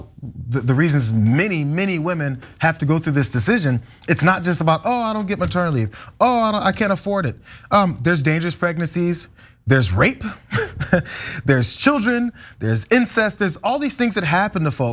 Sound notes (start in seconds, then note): 10.4 laugh